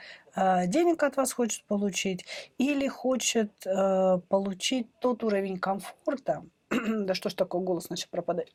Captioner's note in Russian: откашливается